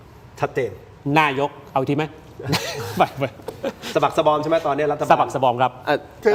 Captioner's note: laughs